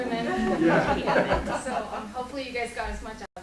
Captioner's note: laughing